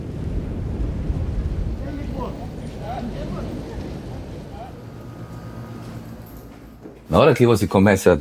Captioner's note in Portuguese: som de conversas